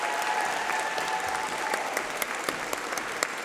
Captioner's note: applause